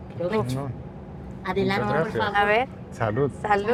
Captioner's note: speaks Spanish